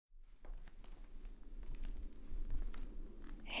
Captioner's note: footsteps